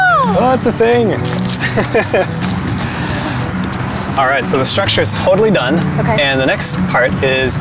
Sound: laughs

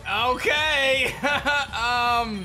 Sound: chuckles

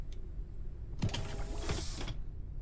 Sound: whizz

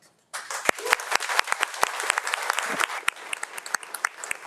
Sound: audience applauding

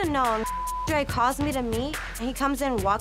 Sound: beep

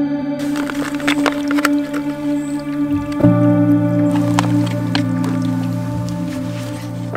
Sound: peaceful music; bottle crinkling

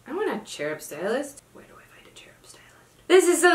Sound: whispers

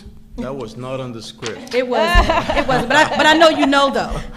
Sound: laughing

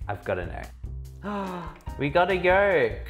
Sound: gasps

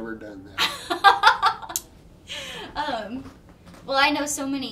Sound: laughing

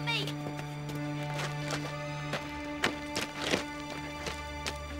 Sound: rustling

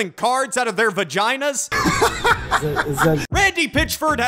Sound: awkward laugh

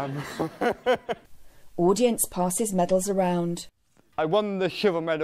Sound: he laughs along with audience

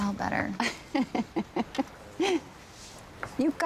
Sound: laughs

